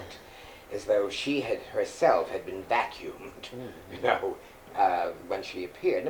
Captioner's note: laughs